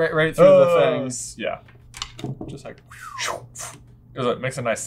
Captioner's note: both make swishy noises